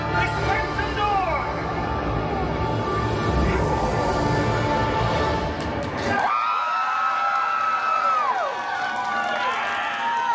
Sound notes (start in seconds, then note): 3.4 Dormammu screaming; 5.5 guests cheering and applauding